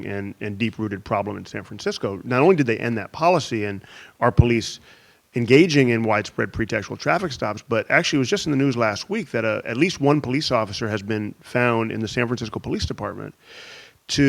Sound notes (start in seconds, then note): none